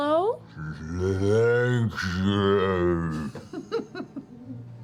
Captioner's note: bear voice